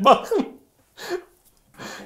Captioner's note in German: Er lacht